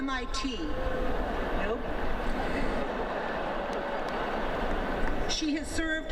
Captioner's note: friendly Jeering by Crowd